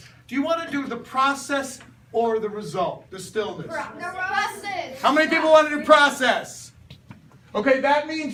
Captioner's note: students call out